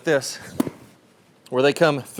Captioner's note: club swooshes